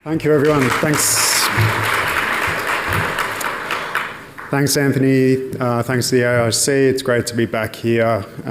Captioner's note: applause